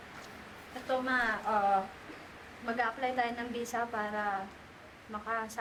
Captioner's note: speaks Filipino